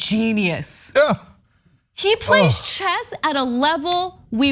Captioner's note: laugh